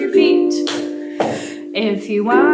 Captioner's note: feet stomping